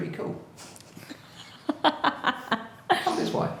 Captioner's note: laughing